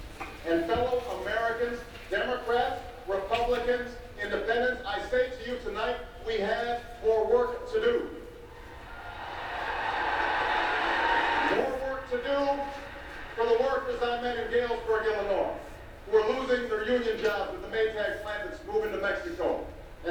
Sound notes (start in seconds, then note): 8.8 audience cheers